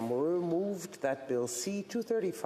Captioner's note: speaking French